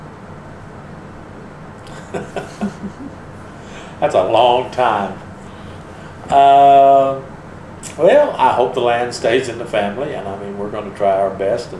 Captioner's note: laughs